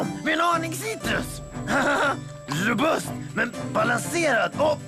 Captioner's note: laughs